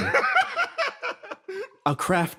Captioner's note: laugh